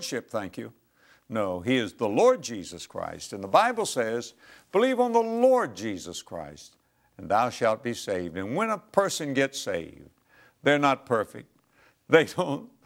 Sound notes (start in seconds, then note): none